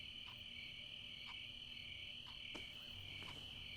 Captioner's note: insects chirping; clock ticking